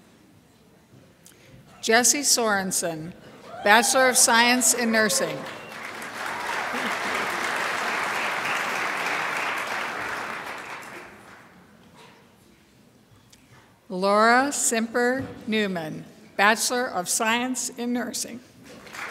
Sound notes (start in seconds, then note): 5.8 crowd applauds; 18.8 crowd applauds